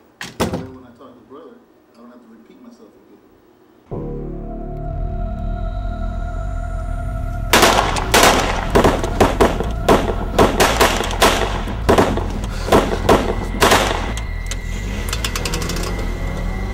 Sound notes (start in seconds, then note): 7.5 guns firing